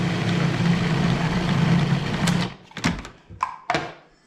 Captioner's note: food processor whirs